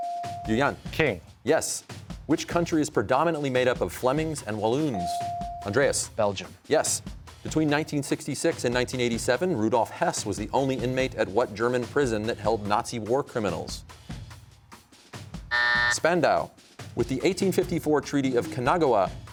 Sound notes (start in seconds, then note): 15.5 buzzer sounds